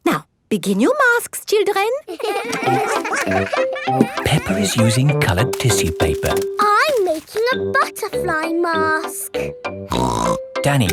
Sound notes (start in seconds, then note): 2.0 all giggling; 9.9 snorts